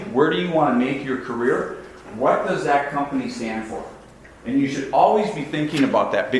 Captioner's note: none